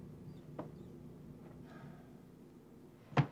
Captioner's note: sighs